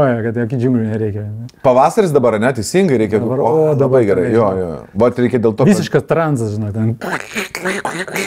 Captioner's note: frog sounds